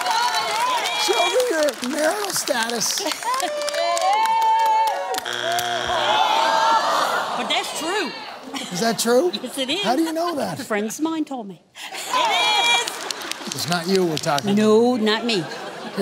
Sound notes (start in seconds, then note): 0.0 cheering; 5.1 audience groans; 5.1 buzzer sounds; 12.3 laughter